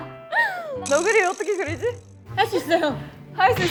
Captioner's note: in panic